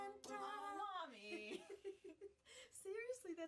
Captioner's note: laughing